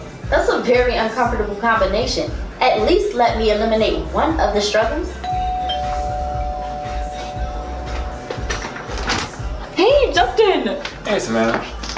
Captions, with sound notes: That's a very uncomfortable combination. At least let me eliminate one of the struggles. [DOORBELL RINGS] Hey, Justen! Hey Sevana.